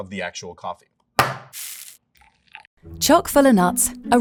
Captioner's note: can thudding and coffee pouring